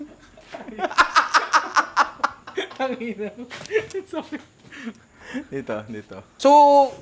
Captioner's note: laughs